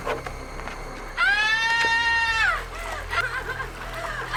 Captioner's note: Emma screaming